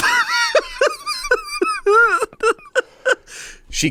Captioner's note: laughs